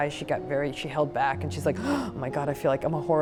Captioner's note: gasps